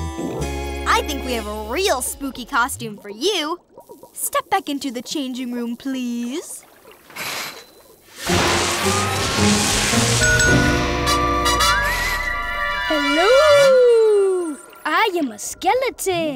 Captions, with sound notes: I think we have a real spooky costume for you. Step back into the changing room, please. [dinging] Hello...! I am a skeleton!